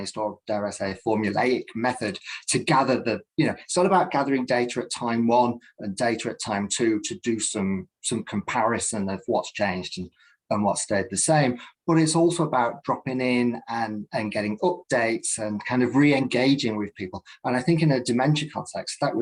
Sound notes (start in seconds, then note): none